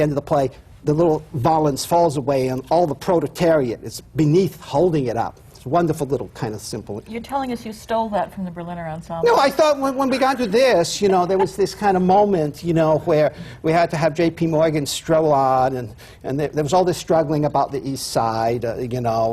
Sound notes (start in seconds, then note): 9.3 laughs